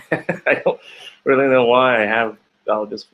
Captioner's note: laughing